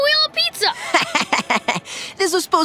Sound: laughing

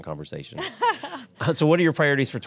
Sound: laughter

